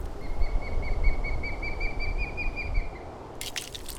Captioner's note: distant Bird Chirps